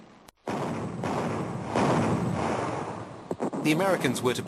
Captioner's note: heavy artillery booming